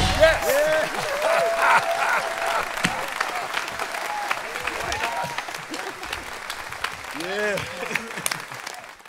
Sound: audience applauding

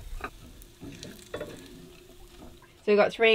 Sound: sizzling

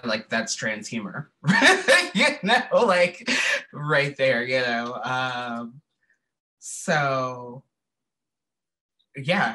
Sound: laughter

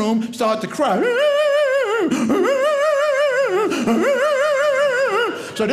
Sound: crying

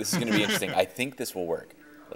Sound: chuckling

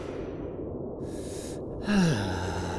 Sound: deep Inhale

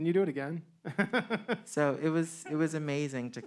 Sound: man laughing

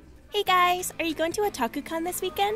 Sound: none

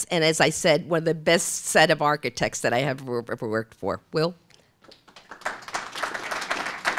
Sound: applause

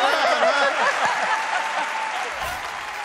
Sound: laughing

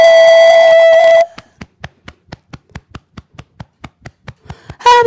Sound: beating Chest

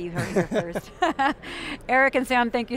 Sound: laughs

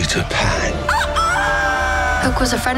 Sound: Peter crowing

